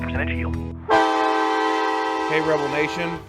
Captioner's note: horn blowing